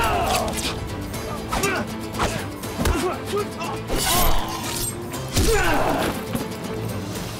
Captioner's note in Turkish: Dövüş sesleri